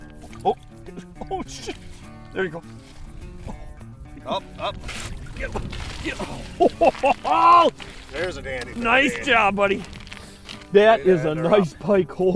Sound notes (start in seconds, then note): 0.2 voiceover